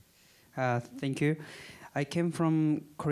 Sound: with Korean accent

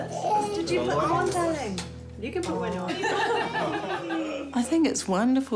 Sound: laughs

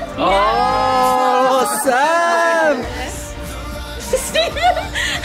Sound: crowd; laughs

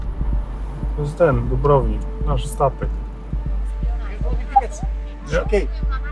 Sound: background conversations

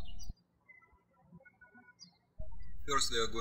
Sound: birds chirping

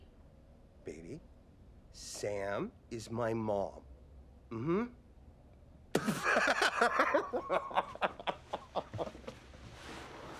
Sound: laughter

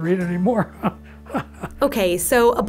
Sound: laughs

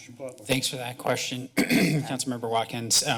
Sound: clears throat

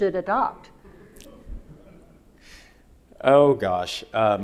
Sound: audience laughing

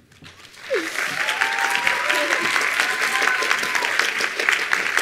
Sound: attendees applauding

